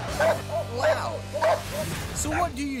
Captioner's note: dogs barking